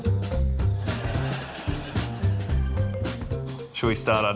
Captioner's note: laughter